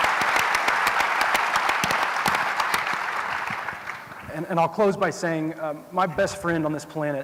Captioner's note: applause